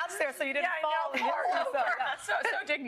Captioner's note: laughter